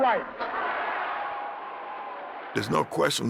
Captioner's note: crowd cheering